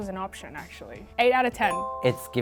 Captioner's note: bell chiming